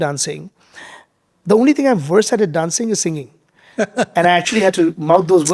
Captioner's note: chuckling